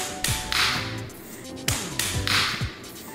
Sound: claps

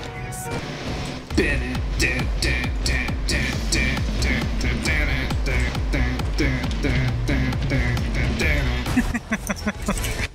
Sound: hums along

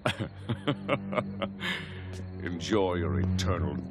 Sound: laughing

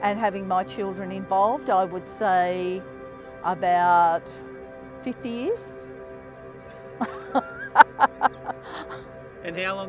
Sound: laughing

